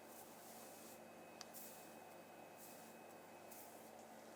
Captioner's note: hair crinkling